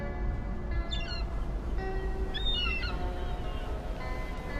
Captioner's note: gulls squawking